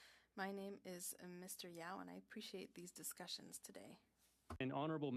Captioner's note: speaking French